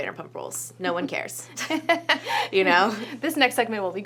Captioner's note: laughs